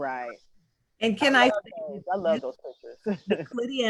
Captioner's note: laughs